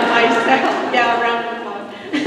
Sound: laughter

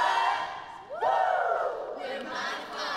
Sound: all whoop

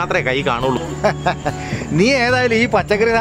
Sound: laughs

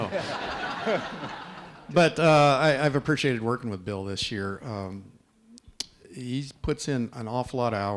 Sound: laughter

